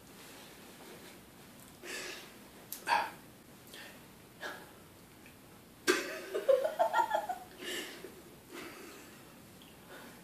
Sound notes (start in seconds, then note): 6.0 giggles